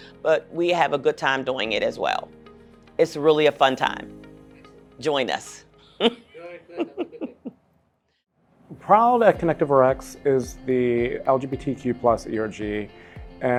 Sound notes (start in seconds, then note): 5.9 laughs